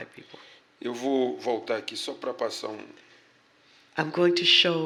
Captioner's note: speaking portuguese